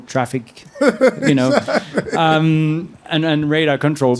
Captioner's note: laughing